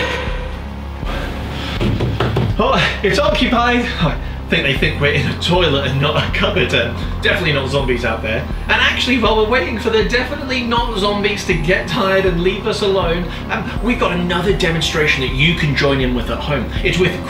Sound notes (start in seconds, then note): 1.8 banging on door